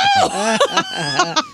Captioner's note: laughing